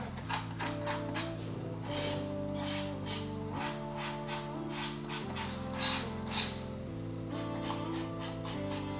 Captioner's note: scratch sounds